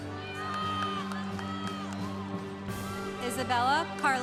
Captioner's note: congregation cheering